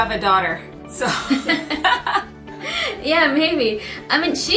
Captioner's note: both laugh